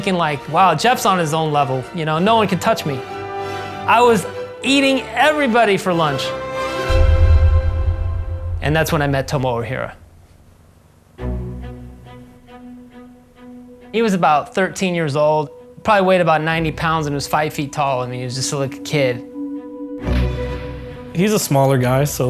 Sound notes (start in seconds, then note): 11.0 soft boom; 15.3 dramatic orchestral music